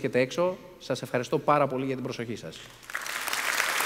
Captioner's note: Xειροκρότημα